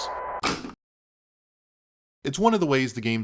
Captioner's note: tape deck shuts off